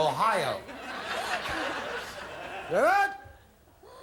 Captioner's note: audience laughing